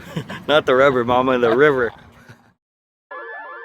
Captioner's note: laughter